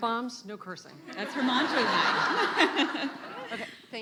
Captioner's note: laughing